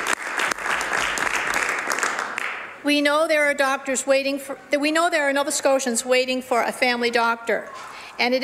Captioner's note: some Applause